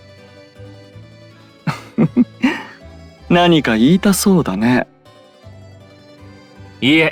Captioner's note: laugh